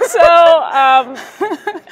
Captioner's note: laughter